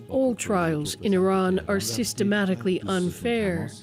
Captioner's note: speaking alternate language